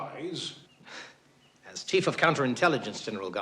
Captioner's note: chuckles